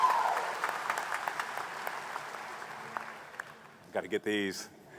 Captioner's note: applause